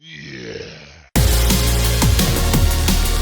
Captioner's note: donkey Growls